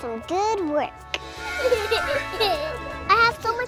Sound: laughing

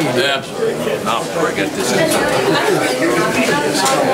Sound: overlapping chattering

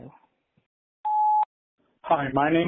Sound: beep

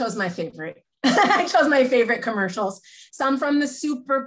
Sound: laughs

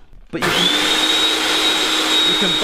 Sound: food processor whirring

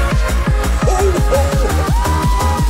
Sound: subtle Comical scream

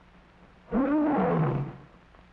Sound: lion roaring

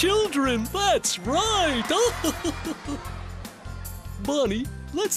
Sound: chuckles

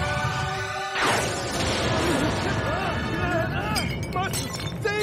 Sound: thunder cracking

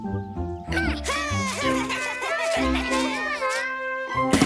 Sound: cheering

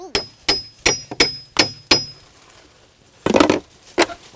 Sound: hammer dinging

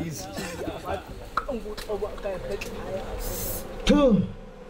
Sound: bees buzzing

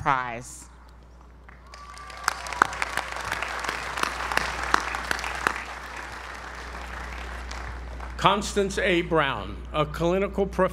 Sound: applause

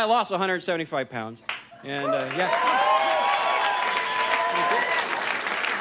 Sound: audience cheers and applauds

